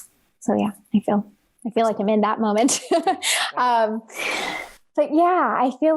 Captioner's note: laughs